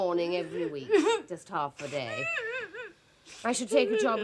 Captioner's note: wife keeps sobbing